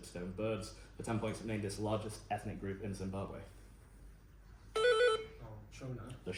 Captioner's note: buzz